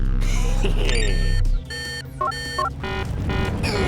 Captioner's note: chuckles; beeps; alarm blaring